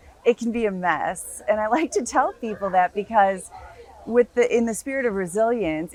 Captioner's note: laugh